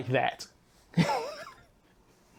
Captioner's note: laughing